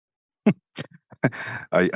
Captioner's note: laughs